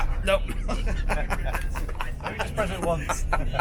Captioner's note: laughing